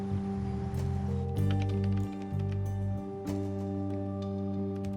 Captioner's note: keyboard typing